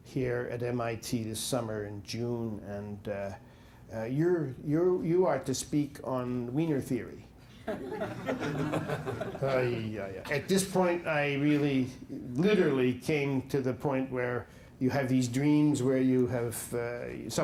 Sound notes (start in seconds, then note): 7.6 laughter